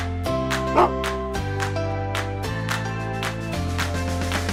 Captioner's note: lighthearted bouncy music; dog bark